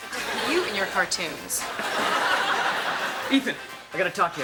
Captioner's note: audience laughs